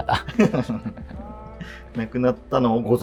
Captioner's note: laughing